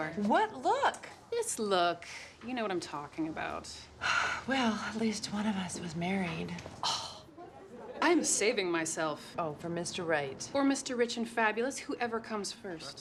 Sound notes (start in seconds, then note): 6.8 sighs; 7.2 gasps